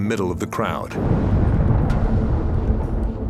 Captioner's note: explosion